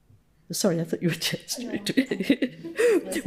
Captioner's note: faintly speaking